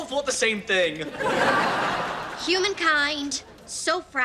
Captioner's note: audience laughs